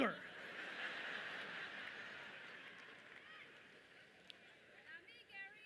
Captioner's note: audience laughing loudly